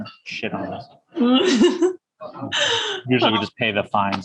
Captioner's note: laughs